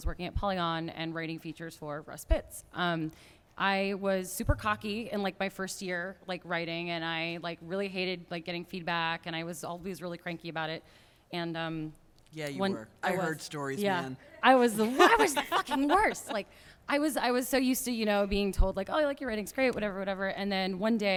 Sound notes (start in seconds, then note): 14.6 laughter